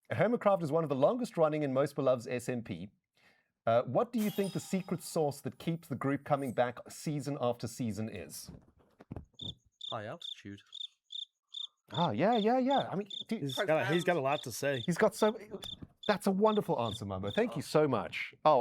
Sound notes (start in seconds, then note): 8.9 cricket SFX